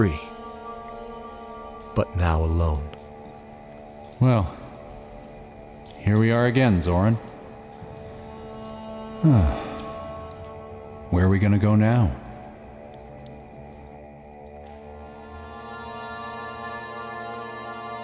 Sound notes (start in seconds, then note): 9.2 sigh